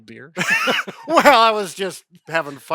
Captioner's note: both laughing